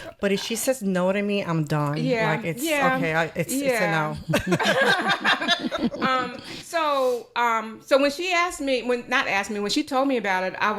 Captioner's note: laughter